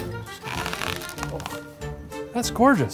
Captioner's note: helmet twists